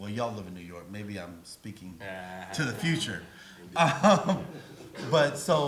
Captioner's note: laughs